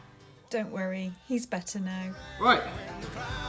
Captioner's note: voiceover